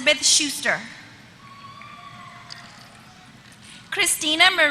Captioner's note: applause